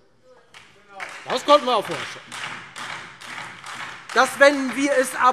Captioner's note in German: Beifall Freie Demokraten, vereinzelt SPD und DIE LINKE